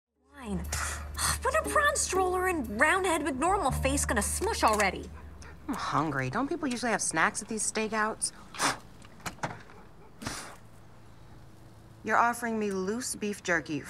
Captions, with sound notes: gonna smush already? I'm hungry. Don't people usually have snacks at these stakeouts? [ Blowing ] You're offering me loose beef jerky